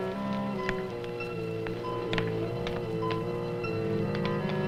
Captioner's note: suspenseful orchestral music; fire crackles